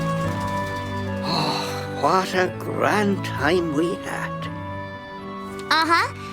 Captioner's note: sighs